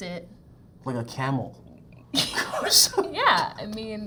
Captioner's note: laughs